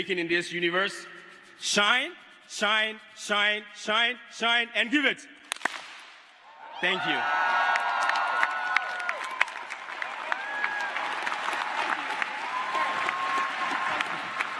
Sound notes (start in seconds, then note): 11.6 clap; 12.5 cheers and applause